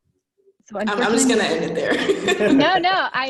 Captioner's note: laughing